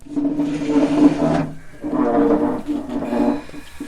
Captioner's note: chair creaking